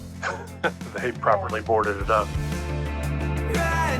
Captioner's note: chuckles